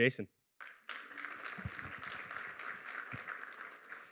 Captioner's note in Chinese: 掌声